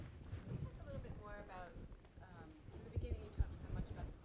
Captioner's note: woman's Voice